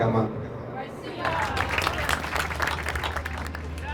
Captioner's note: applause